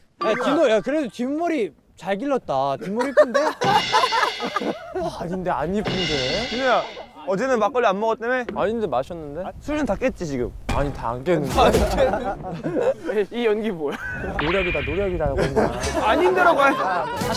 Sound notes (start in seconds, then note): 2.8 hahahaha